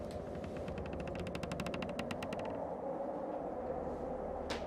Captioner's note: creaking